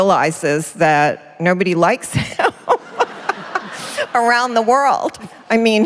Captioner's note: laughter